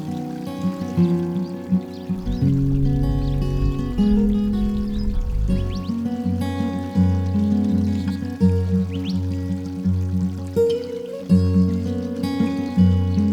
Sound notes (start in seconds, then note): 5.3 birds chirping